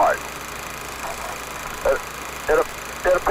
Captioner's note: project reel spinning